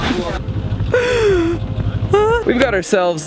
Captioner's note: whining